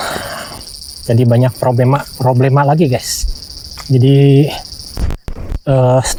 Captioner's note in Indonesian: berdehem